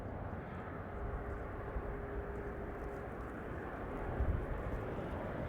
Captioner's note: Traffic